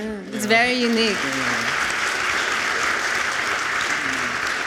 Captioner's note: audience applauds